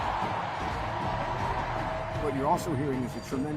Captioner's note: cheering